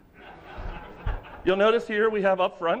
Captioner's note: laughter